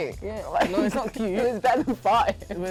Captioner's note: laughs